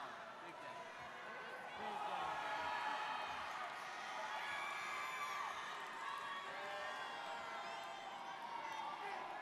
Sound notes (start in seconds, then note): 3.9 students cheering